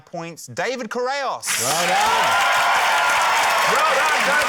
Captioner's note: cheering, applause